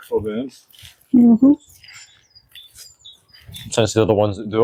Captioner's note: birdsong